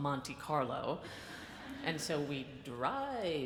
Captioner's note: audience laughs